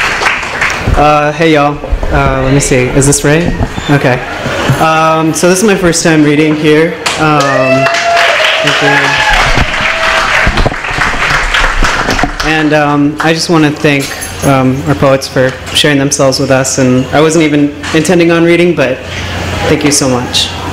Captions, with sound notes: Uh, hey y'all, uh let me see. Is this right? Okay. Um so this is my first time reading here um... [applause] And um, I just want to thank our poets for sharing themselves and I wasn't even going to read today. Thank you so much.